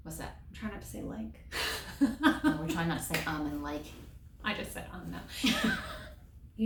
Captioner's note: laughter